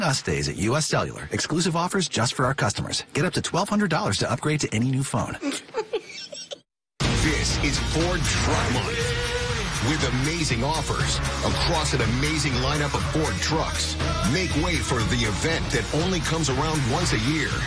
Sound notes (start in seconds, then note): 11.3 giggles